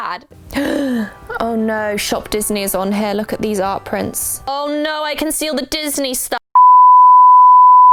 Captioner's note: gasp